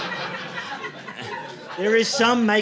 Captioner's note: audience laughing